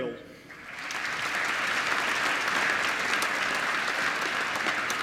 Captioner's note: applause